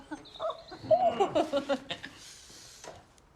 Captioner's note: giggling